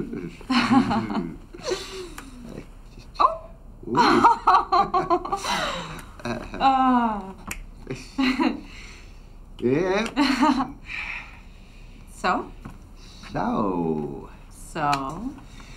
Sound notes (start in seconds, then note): 1.5 woman chuckles; 3.9 laughs; 10.6 woman chuckles